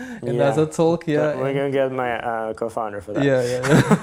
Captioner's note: laughs